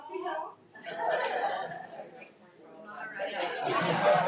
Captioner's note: attendees laughing